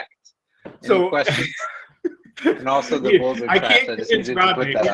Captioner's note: laughs